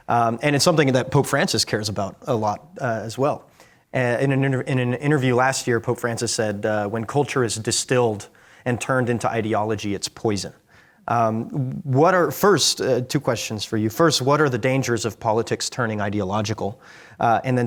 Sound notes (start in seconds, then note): none